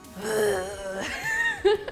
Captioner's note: groans; laughs